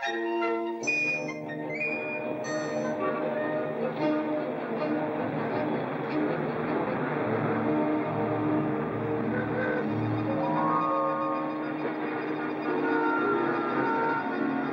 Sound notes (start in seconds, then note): 2.9 horn honks; 3.9 vehicles rumbling softly; 9.0 horn honks; 10.4 ominous music; 10.4 vehicles rumbling softly